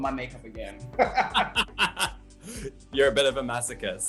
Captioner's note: laugher